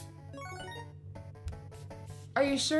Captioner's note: 8-bit game noises